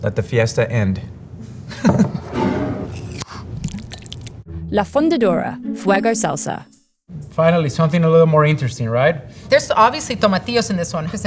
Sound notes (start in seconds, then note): 1.5 jar thudding; 1.7 chuckles; 1.9 lid opening; 2.0 jar sliding; 3.4 salsa pouring